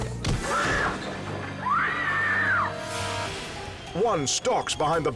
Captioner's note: woman screams